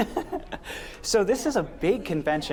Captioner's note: laughs